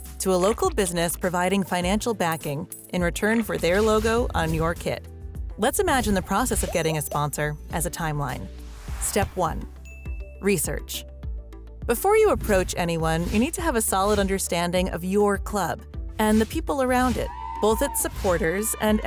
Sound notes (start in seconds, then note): 9.8 bell dinging